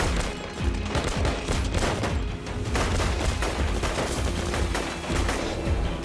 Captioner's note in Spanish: Disparos